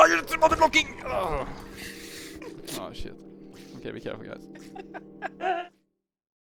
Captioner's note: hahaha; haha